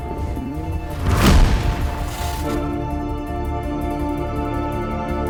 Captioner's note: lightning striking; suspenseful music